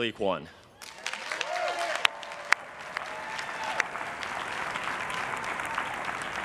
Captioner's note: everyone cheering and applauding